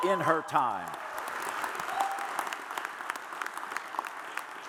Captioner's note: audience applauds